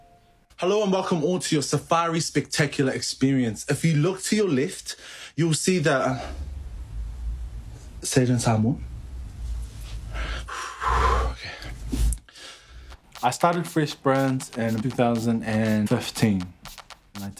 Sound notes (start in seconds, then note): 9.8 exhales; 12.5 inhales